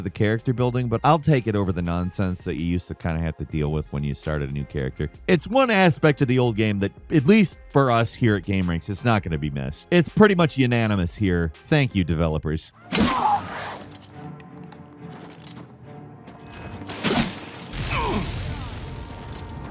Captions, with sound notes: of the character building, but I'll take it over the nonsense that you used to kind of have to deal with when you started a new character. It's one aspect of the old game that at least for us here at Gameranx, it's not gonna be missed. It's pretty much unanimous here. Thank you developers. (Daedra yelps) (hero grunts)